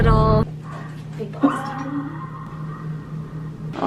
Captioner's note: blowing out a deep breath